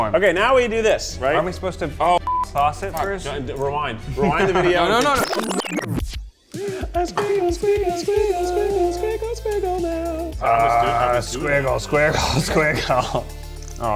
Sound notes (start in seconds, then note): 2.2 beep